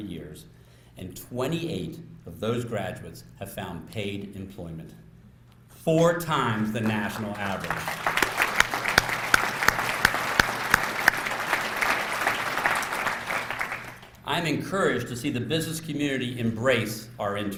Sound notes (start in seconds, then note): 6.8 applause